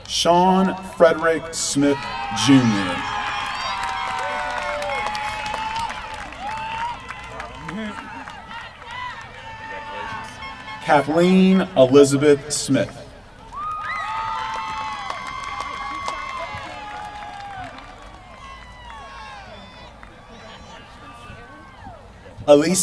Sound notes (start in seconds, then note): 3.2 applause; 14.0 applause